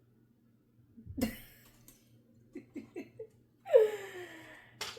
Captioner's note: laughter